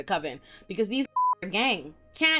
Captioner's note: beep